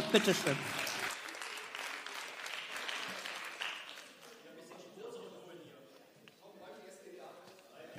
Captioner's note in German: Beifall